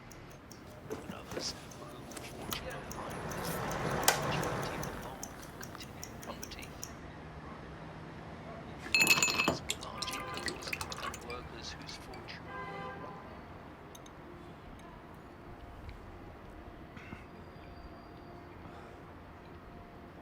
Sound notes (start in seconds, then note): 8.9 ice cubes rattle; 15.1 light music